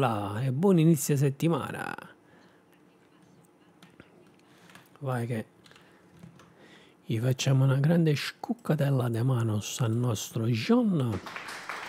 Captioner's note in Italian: Applauso